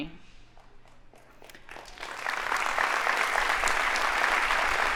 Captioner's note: audience applauding